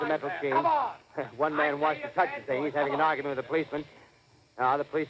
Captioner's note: faint humming sound